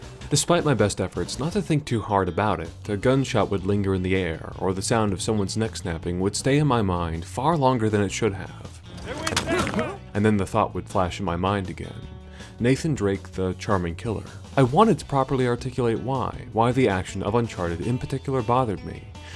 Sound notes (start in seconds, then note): 9.0 neck snaps